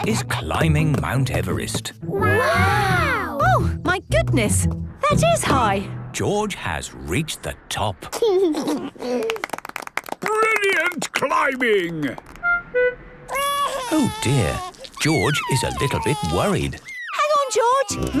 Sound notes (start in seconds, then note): 8.5 George giggles; 9.2 clapping; 13.3 crying